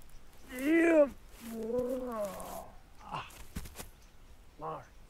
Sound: groans

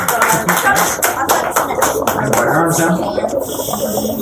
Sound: applause

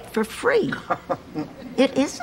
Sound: Dorothy laughs

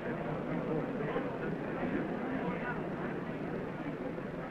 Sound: crowd murmuring

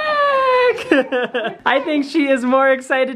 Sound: laughs

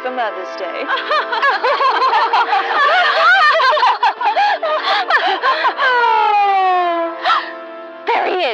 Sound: pompous laughter

